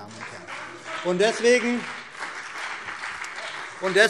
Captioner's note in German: Beifall CDU und BÜNDNIS 90/DIE GRÜNEN